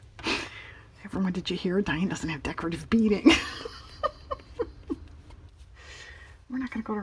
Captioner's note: laughs